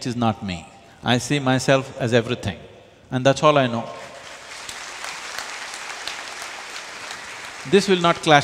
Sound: applause

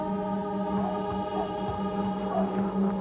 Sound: dogs barking in distance

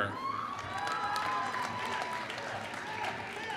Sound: applause

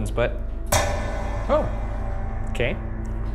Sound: bar clanks

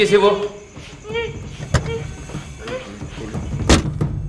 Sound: car door opened - Closed

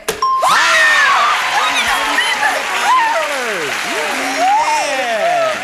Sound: cheers of excitement

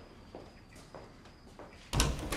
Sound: footsteps retreating; door opening

